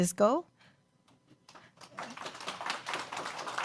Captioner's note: applause